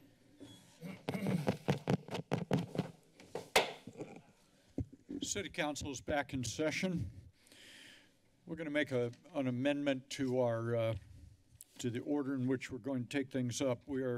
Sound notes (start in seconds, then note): 0.8 clears throat; 1.0 footsteps; 1.0 mic tapping; 3.6 strikes the gavel